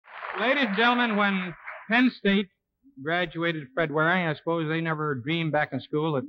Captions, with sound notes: - LADIES AND GENTLEMEN, [AUDIENCE APPLAUDING] WHEN PENN STATE GRADUATED FRED WARING, I SUPPOSE THEY NEVER DREAMED BACK IN SCHOOL